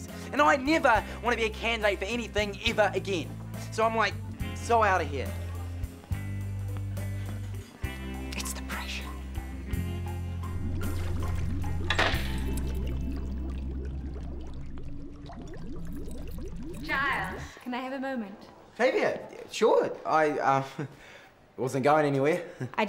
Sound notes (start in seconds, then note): 10.7 water bubbling